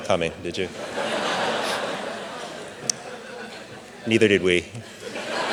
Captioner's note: audience laughing